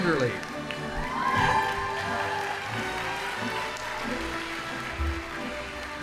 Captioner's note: audience applauding; band playing